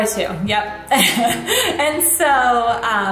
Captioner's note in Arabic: ضحكات خافتة من الكريستال